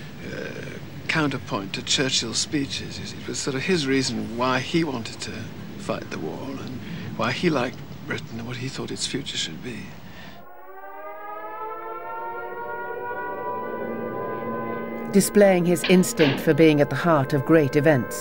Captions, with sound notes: Er, counterpoint to Churchill's speeches, you see It was sort of his reason why he wanted to fight the War. Why he liked Britain and what he thought it's future should be. (air raid sirens) Displaying his instinct for being at the heart of great events.